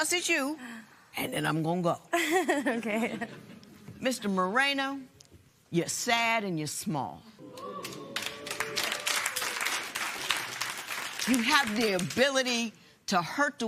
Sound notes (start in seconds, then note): 7.5 applause